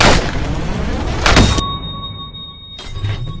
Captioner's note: time freeze sound